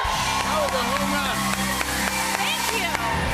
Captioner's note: cheers and applause